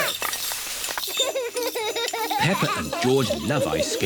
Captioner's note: laughs